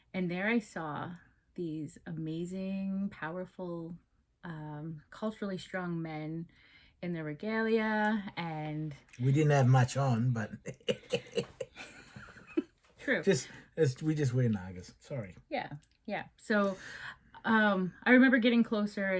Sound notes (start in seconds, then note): 9.3 chuckles